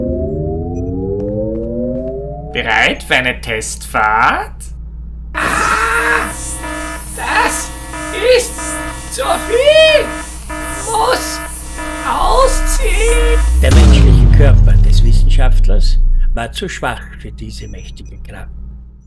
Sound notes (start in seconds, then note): 5.3 alarm; 13.4 explosion